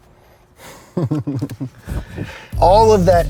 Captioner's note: laughs